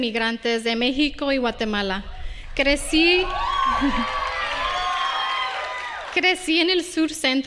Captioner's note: Aplausos